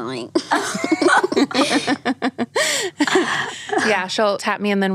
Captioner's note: all laughing